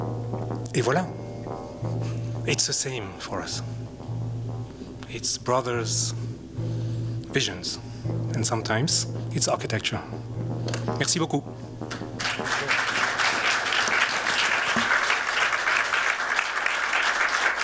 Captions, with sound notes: Et voila. It's the same for us. It's brothers, visions, and sometimes it's architecture. Merci beaucoup. [APPLAUSE]